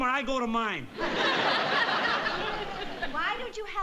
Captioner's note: audience laughing